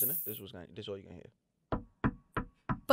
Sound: knocking

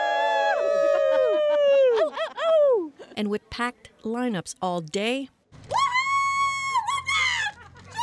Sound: cheers and Applause

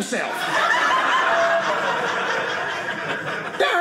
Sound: audience laughing

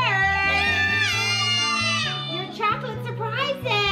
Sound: kids cheering

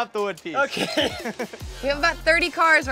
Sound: laughs

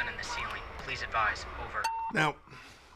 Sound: Walkie Talkie beeps

